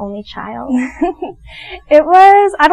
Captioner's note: giggles